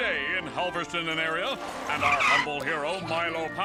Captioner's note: bike tires screeching